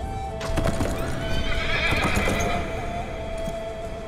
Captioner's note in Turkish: At kişniyor